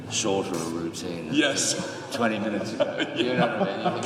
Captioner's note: laughs